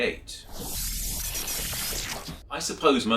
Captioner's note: electronic sounds